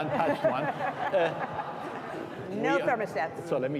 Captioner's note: all laughing